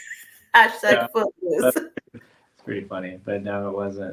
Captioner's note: laughing